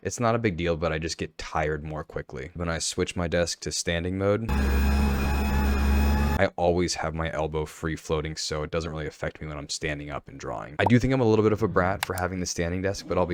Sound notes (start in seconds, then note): 4.5 desk whirring